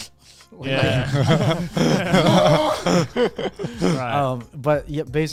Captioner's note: laughs; screams